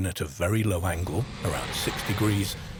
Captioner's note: asteroid whooshing